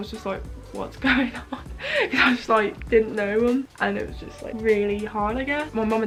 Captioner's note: laughs